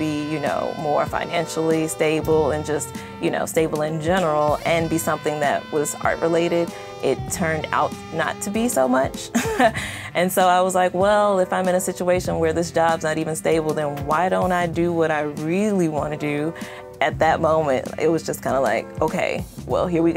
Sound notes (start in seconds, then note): 9.3 laugh